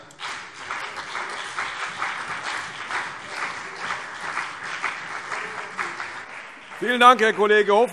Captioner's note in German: Beifall CDU und BÜNDNIS 90/DIE GRÜNEN